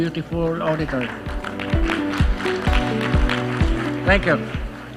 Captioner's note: applause